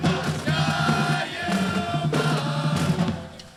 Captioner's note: drums beating; band chanting